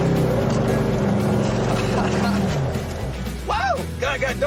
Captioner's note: laughter